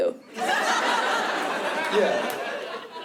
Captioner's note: laughter